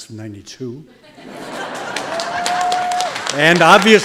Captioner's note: audience laughing and applauding